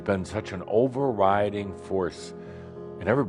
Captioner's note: none